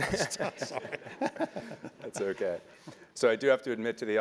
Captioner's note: laugh